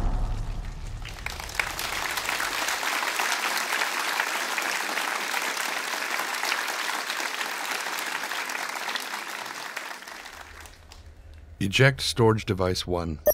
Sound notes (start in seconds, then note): 0.6 applause